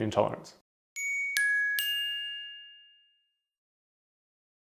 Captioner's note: bell chiming